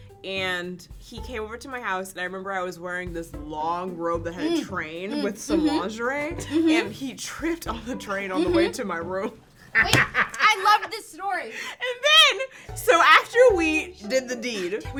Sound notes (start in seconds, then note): 8.3 laugh; 9.8 slams table